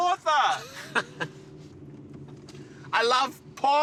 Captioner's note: laughing